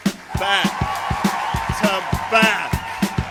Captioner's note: applause, band starts up; applause, raucous cheers